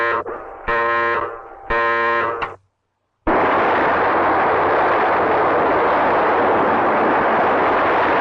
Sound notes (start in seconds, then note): 2.1 switch clicking; 3.2 missiles blasting